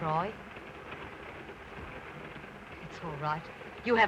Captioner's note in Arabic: صوت خشخشة القطار